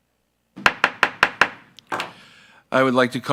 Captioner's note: gavel smacking